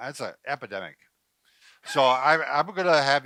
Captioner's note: laughing